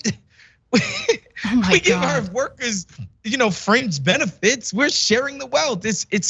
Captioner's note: laugh